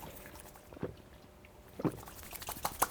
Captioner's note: hands rubbing; gulping drink; hands clapping